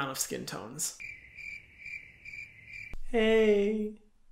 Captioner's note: crickets chirping